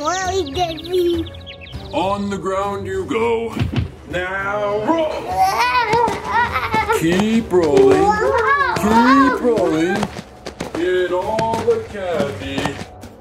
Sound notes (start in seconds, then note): 0.0 birds chirping; 3.6 both thuds; 5.8 both grunts